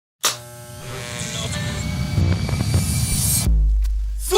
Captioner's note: electricity buzz